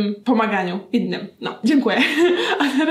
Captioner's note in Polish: śmiech